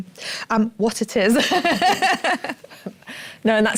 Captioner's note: laughs